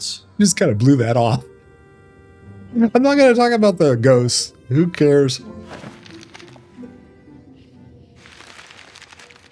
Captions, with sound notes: You just kind of blew that off. I'm not gonna talk about the ghosts, who cares? (paper rustling)